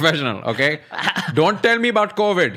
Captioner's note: laughs